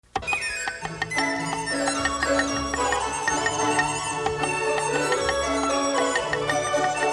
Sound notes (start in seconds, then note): 0.2 joyful music; 0.2 cleaver chopping